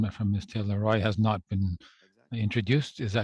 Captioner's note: speaking French